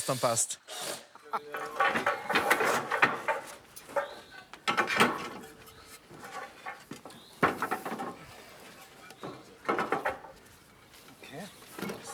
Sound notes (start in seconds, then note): 1.5 clattering